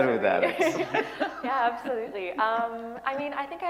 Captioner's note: laughter